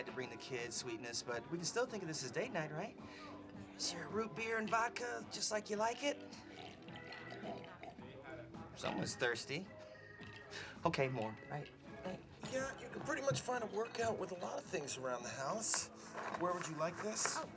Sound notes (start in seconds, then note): 6.8 slurps